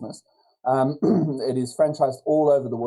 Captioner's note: clears throat